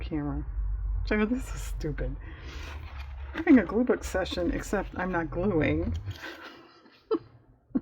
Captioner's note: laughs